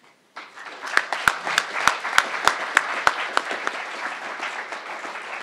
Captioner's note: crowd applauding